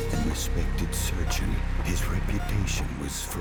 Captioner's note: machines beeping